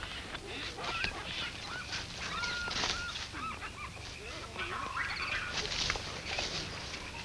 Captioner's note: birds chirp; grass rustles